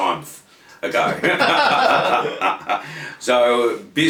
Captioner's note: both laughing